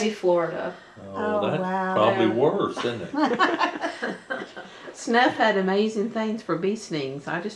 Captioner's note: laughter